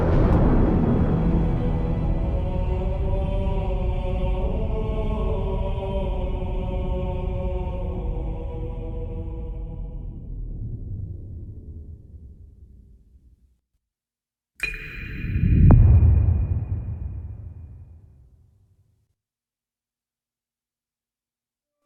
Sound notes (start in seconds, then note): 0.0 thunder crashes; 16.9 dramatic sound